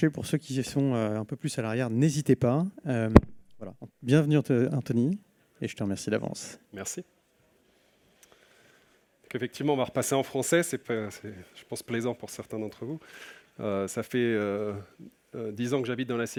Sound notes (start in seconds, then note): 9.0 speaking french